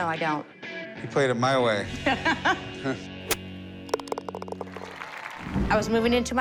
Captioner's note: laughs